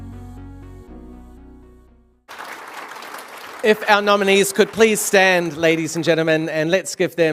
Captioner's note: applause